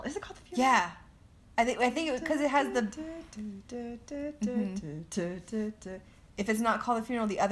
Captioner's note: humming